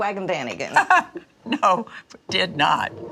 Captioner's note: mama laughs